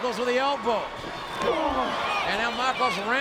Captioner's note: both grunt